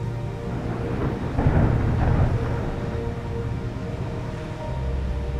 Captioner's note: thunder rambling